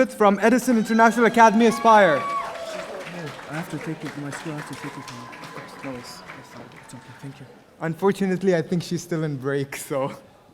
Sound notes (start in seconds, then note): 2.2 audience applauding; 3.6 both speaking in foreign language